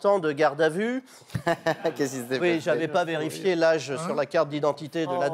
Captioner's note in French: rires